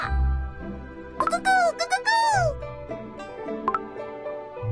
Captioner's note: enthusiastically